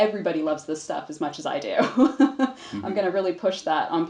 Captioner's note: laughs